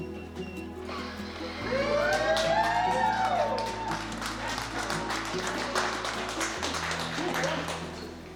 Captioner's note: applause